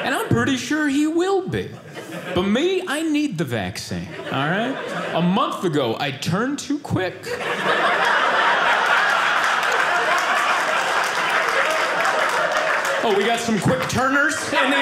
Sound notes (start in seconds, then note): 7.2 audience laughing